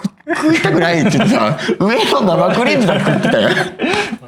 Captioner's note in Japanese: 笑い